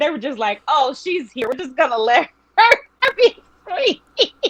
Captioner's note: laughing